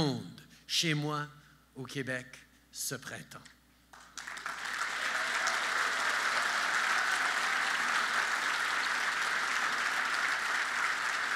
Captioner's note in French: Applaudissements